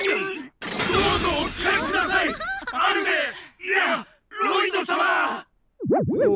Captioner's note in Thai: เคร้ง